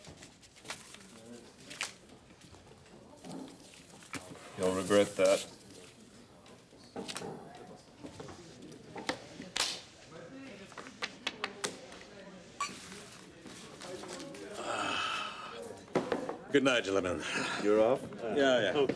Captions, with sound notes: You'll regret that. (people chattering) (glasses clink) - Goodnight, gentlemen. - You're off? - Yeah, yeah.